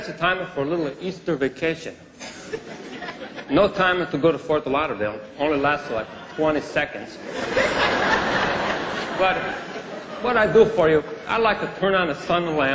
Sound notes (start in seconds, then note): 5.9 laughter